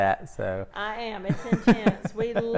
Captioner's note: laughs